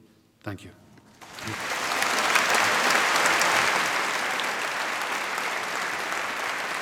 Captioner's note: applause